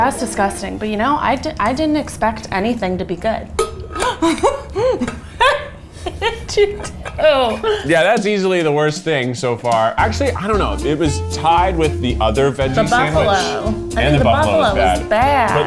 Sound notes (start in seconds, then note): 3.5 metallic clanging; 4.6 gasps